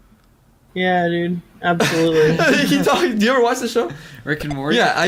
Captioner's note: laughs